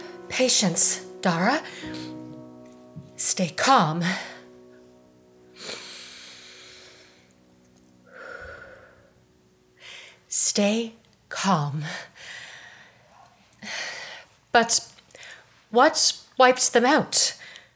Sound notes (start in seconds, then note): 5.5 inhales; 8.1 exhales; 11.9 inhales and exhales